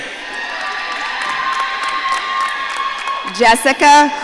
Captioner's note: audience cheering